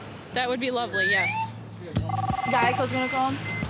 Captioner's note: line ringing